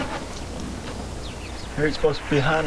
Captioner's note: birds chirping